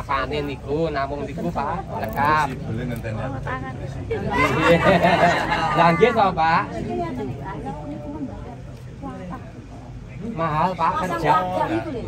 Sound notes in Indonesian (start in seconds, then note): 4.3 tertawa